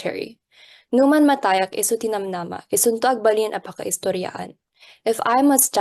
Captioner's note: speaking Ilokano